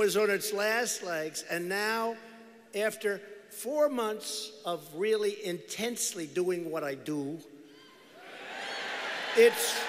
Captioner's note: cheers